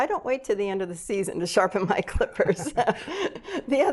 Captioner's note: laughs